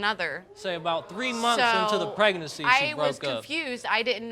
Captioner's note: audience gasps